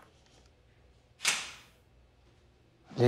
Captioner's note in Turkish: Kapı açıldı